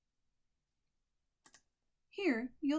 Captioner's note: click